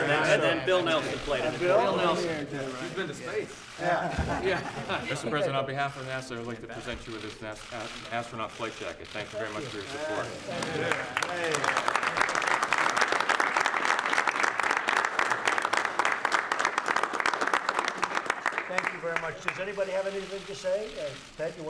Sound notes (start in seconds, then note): 10.2 applause